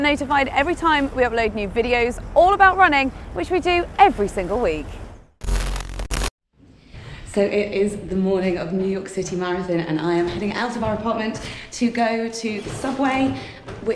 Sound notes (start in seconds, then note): 5.4 static sounds